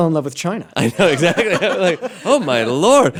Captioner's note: laughter